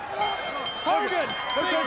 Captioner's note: bell sounds